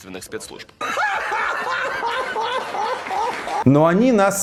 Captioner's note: laughs demonically in Russian